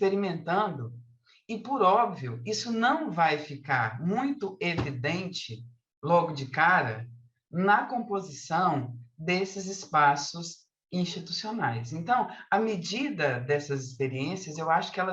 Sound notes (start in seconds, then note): 5.7 continues speaking in Portuguese